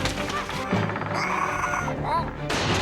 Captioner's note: shelves clatter; treehouse rumbles and creaks; Tasha cries